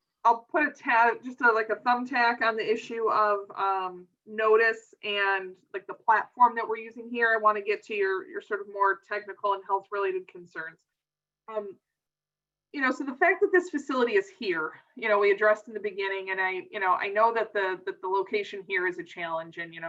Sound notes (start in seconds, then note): none